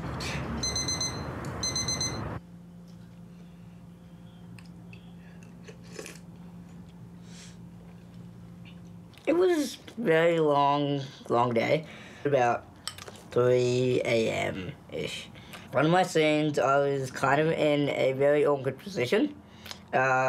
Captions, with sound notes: (ALARM BEEPS) (SLURPS) It was a very long, long day — about 3am-ish. One of my scenes, I was kind of in a very awkward position